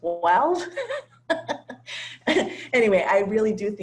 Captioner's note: laugh